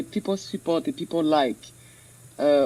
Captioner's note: speaks in French